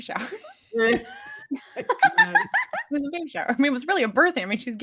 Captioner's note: cast laughing